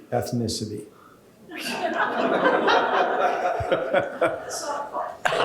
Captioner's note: laughter